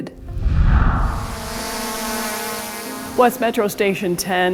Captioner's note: drone buzzing